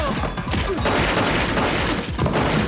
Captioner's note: gunshots